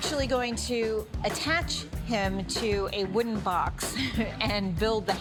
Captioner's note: laughs